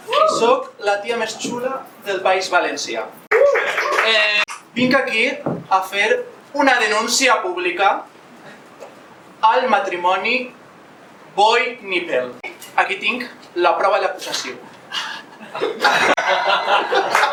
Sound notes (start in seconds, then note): 3.6 applause; 14.7 laughs